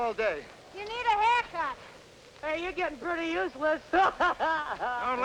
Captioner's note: laughter